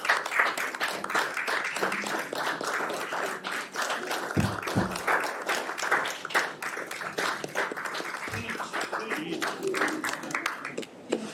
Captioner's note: applause